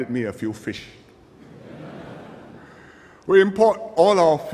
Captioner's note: laughter